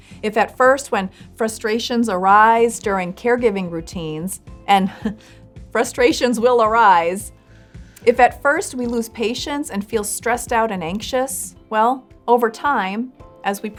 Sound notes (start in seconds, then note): 4.8 chuckles